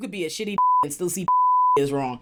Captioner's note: beep